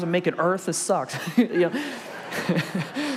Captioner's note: congregation and laugh